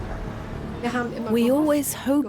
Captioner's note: speaks in foreign language